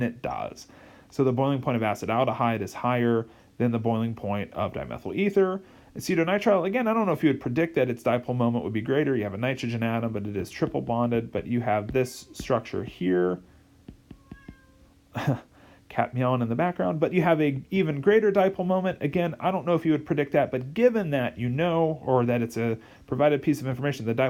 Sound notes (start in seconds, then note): 14.1 cat meowing in background; 15.1 chuckles